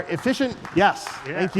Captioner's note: applause